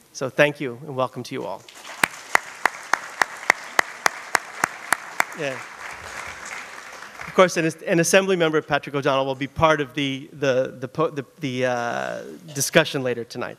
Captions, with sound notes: SO THANK YOU, AND WELCOME TO YOU ALL. [ APPLAUSE ] OF COURSE, IT IS AN ASSEMBLYMEMBER, PATRICK O'DONNELL, WILL BE PART OF THE DISCUSSION LATER TONIGHT.